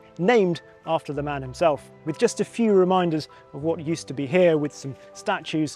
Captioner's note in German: none